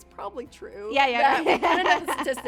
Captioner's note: laughs